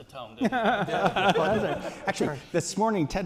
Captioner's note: laughter